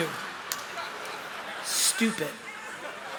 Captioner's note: laughter